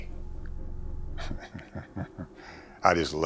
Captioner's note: chuckling